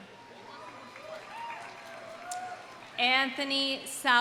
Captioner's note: audience cheering; audience applauding